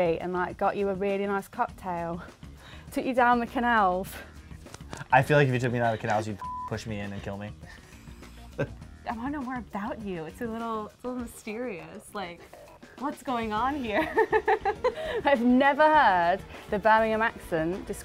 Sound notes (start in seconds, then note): 2.2 laughs; 6.4 beep; 7.6 both laugh; 13.9 laughs